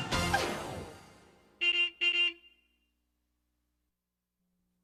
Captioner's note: horn honks